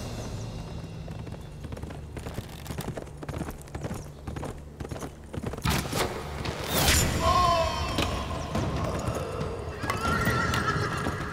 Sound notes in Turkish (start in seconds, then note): 0.0 At nalı sesleri; 7.1 Bağırma sesi